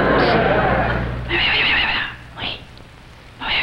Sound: crowd laughs; man whispers; man whispers

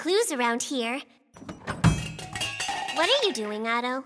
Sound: clatter

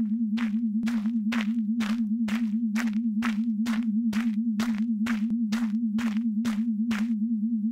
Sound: crunchy footsteps

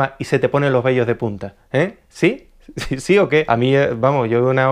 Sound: giggles

